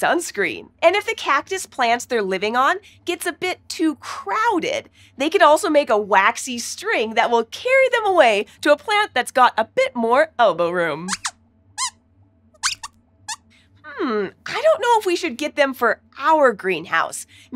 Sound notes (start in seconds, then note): 12.6 squeaks squeaks